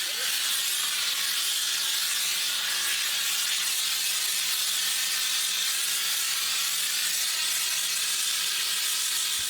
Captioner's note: air hissing